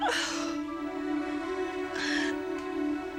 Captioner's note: gasping